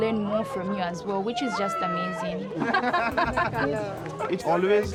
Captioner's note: laughing